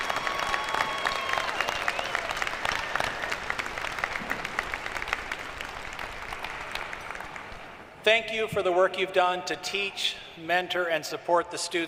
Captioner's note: cheering and applause